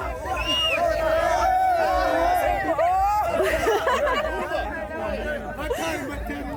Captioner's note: shouting and laughing